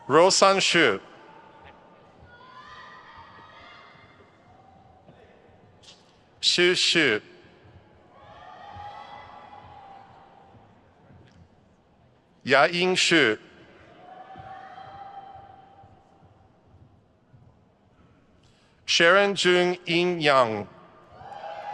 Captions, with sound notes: Ruoxian Xu. Xu Xu. (crowd cheers) Yaying Xu. Sharon Jung Inn Yang.